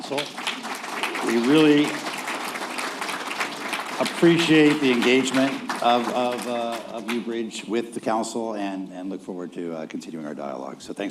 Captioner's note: applause